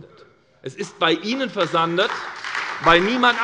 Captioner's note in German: Beifall bei der SPD